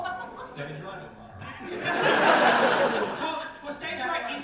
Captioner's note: audience laughter